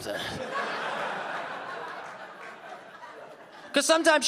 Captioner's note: audience laughing